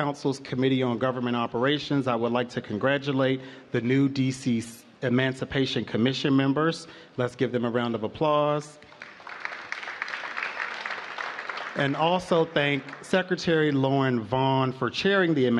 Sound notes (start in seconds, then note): 8.8 applause